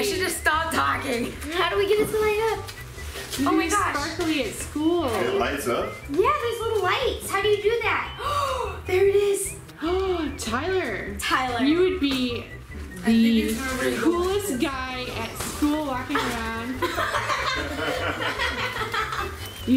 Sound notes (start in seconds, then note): 8.2 gasps; 16.1 laugh